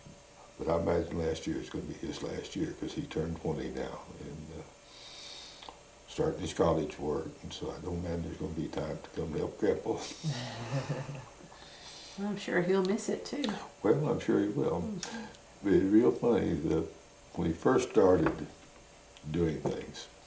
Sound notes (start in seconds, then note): 10.1 laughs